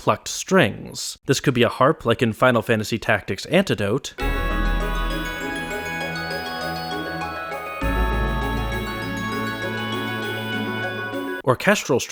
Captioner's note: bang